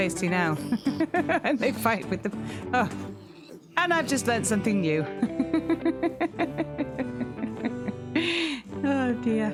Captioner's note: laughing; laughing